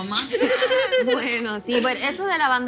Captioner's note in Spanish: Risas